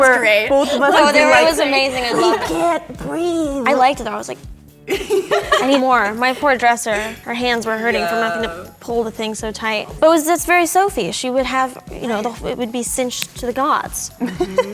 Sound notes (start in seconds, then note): 4.9 all giggling